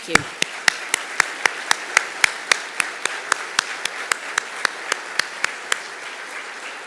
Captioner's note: audience applauding; applauding